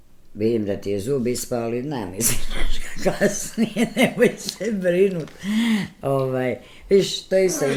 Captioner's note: laughter